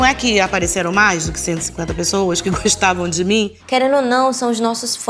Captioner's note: laughs